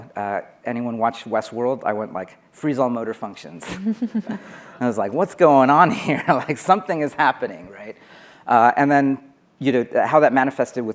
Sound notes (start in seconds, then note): 3.6 laughing